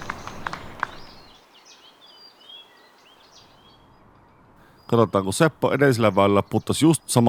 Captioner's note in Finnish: Aplodeja